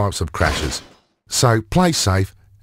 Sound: crash

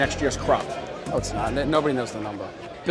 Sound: on phone

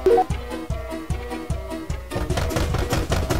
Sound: bang bang bang bang

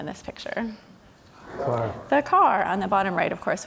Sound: crowd

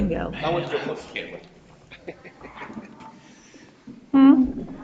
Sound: chuckles

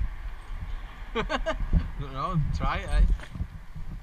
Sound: laughing

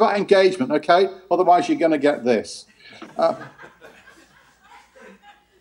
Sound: laughter

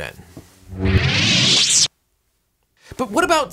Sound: lightsaber hums; lightsaber whirs

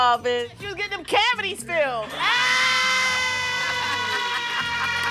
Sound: screams

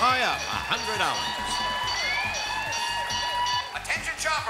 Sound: alarm blares

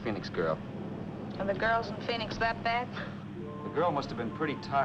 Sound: chuckles

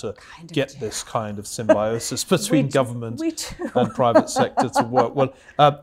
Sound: laugh

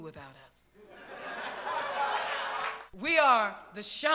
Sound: audience laughing

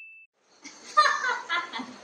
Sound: laughing uncontrollably

